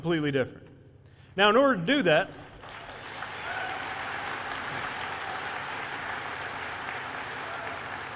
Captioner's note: applause